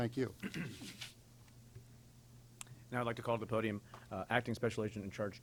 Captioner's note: clears throat